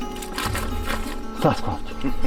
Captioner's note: gentle acoustic music; leaves crunching